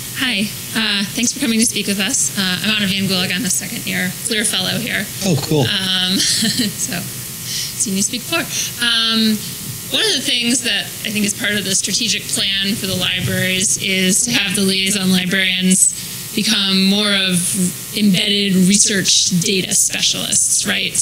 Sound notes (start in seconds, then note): 5.2 laugh